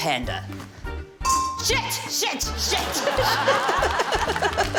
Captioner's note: dink!; laughs